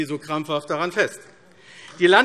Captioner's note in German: Beifall AfD